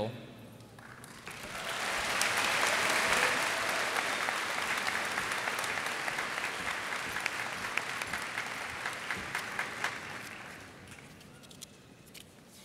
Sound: applause

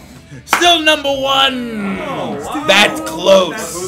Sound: laugh

